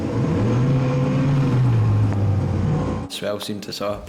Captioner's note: boat engine revving